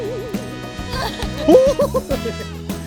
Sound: flapping

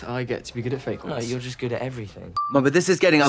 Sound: pause chime dinging

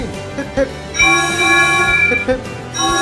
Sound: the engines whistle

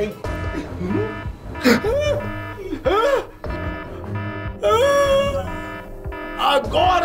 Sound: alarm blaring

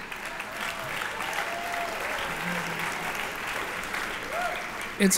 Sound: applause

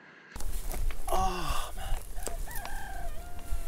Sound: sighs in pain

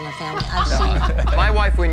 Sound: all laughing

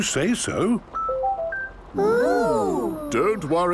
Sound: car chiming

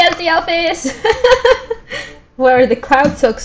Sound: laughs

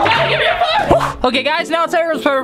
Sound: sound effects

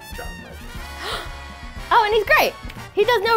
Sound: gasps

